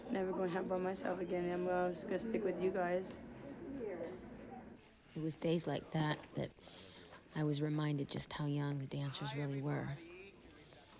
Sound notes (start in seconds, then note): none